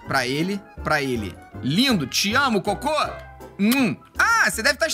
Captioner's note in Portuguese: som de beijo